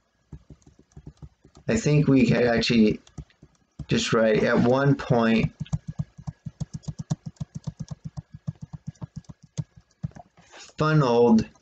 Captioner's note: tapping of the keyboard